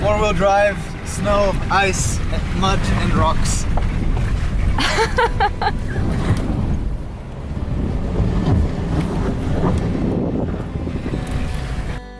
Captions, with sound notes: Four wheel drive, snow, ice and mud and rocks. (passenger laughing)